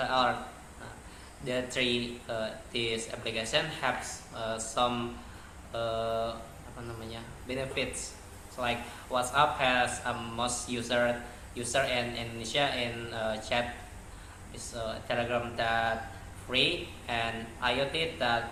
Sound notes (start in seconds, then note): 5.2 non-english speech